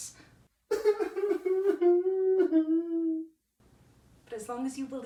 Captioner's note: LARRY sobs